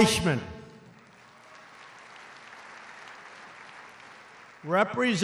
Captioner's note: applause